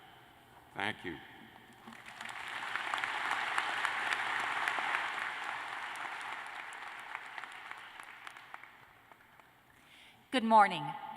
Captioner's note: applause